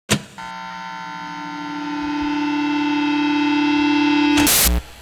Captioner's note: feedback droning